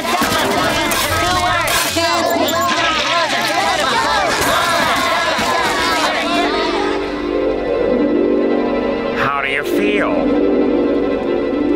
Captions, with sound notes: I have three kids! [panicked shouting] [flushing] [panicked shouting] How do you feel?